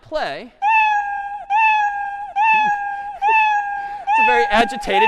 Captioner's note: cat meowing repeatedly